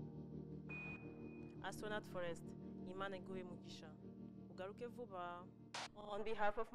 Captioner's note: speaking kinyarwanda